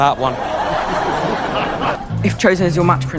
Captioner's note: laughter